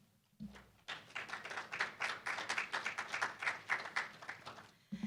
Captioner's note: applause